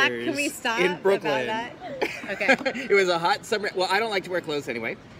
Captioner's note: laughs